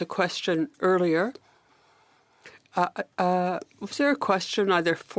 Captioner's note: speaking French